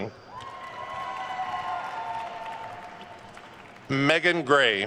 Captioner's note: attendees cheering and applauding